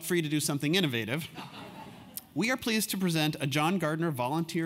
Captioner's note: laugh